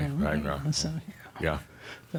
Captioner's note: murmuring